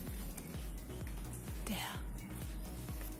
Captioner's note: whispering